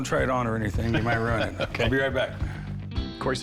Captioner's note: laughs